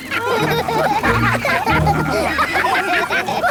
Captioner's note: all laugh